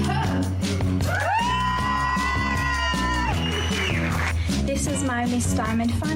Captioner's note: everyone cheering